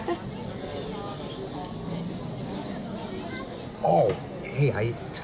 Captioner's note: bracelet jingling